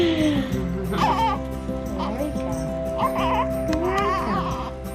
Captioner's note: baby crying